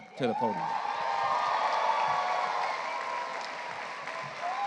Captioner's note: audience cheers